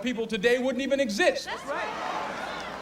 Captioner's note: crowd